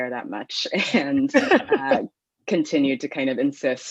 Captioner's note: laughs